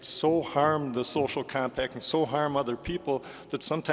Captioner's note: none